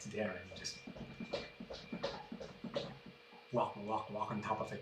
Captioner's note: plod plod plod plod plod plod